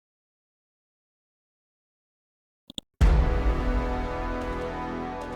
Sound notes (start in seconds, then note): 2.7 mouse clicks; 3.2 dramatic chord